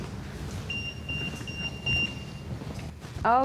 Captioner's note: EMF beeping